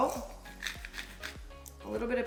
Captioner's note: salt crunching